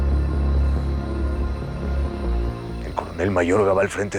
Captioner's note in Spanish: Sollozos